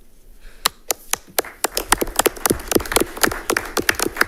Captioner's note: audience clapping